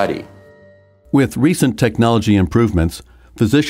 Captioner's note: voiceover